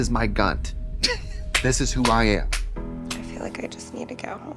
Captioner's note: Katya hisses and hits